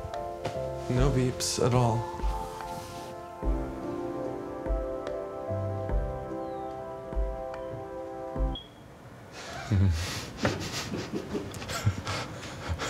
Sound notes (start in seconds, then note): 8.5 alarm beeping; 9.4 laughing